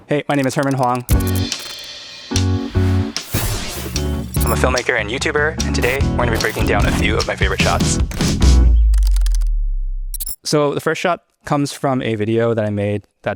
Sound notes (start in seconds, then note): 0.4 upbeat music; 3.4 lightning whooshing; 8.3 upbeat music continues; 9.1 keyboard clacking; 10.1 transition glitching